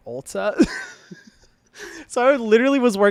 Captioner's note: laughing